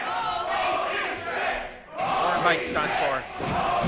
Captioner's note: crowd